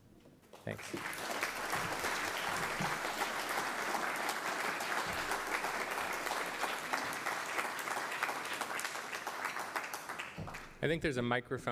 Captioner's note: applause